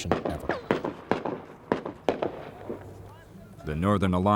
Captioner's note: gunshots